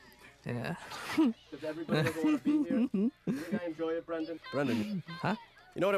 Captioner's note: giggling